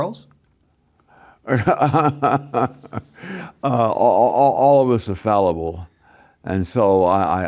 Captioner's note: laughs